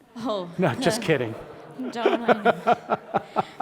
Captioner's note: laugh